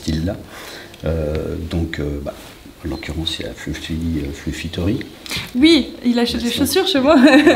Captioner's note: laughter